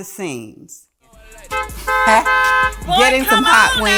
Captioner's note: rap music; car horn honking